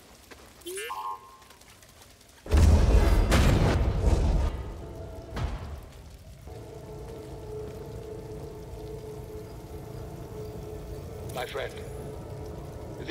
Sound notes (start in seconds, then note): 6.5 faint hum